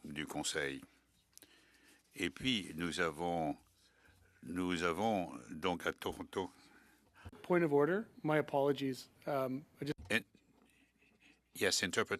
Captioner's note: speaking French